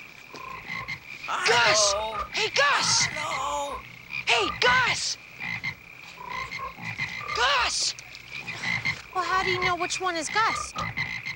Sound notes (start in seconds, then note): 5.5 frogs croaking